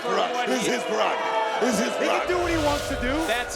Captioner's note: crowd booing